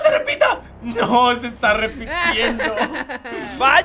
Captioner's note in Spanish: Risa malvada